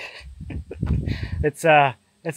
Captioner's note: laughing